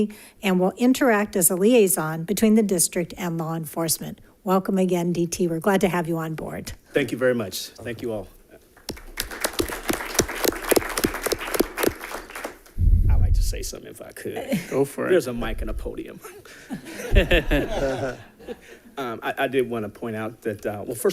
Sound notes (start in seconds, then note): 8.8 audience applauds; 16.2 laughs